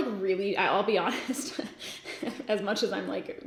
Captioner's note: giggles